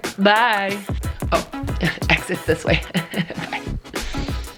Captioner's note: laughs